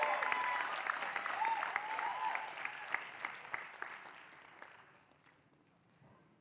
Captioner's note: applause